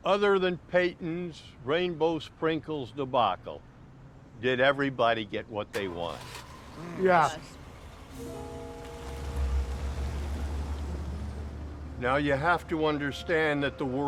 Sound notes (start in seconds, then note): 8.4 truck rambles off